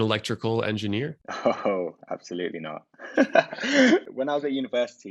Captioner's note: laughs